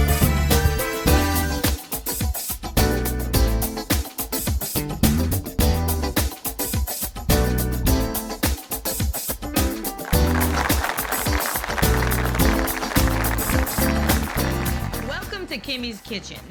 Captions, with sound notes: (upbeat music continues) (audience applauds) - Welcome to "Kimmie's Kitchen."